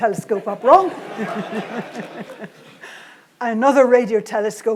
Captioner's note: audience and Jocelyn laugh